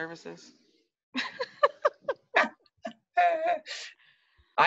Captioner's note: both laugh